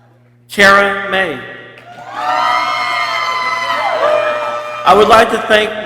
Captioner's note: people cheering